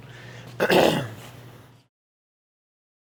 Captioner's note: coughs